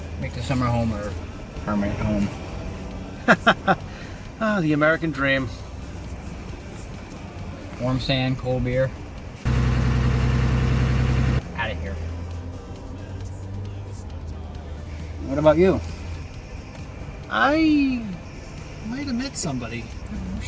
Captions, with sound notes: Make the summer home our permanent home. - (laughs) Ah, the American dream. - Warm sand, cold beer. (car engine idling) Outta here. What about you? - I might have met somebody.